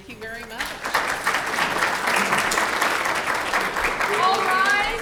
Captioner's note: audience applause